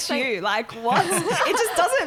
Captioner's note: laughing